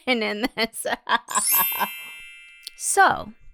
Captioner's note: music note chime